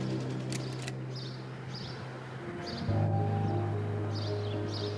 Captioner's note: birds chirping